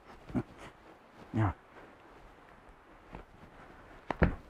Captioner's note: Mercer grunts